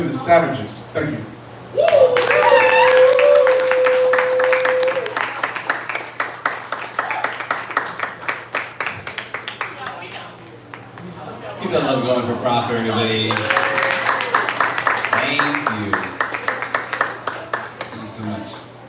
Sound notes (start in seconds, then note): 7.7 applause